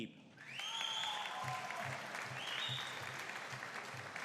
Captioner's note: audience cheering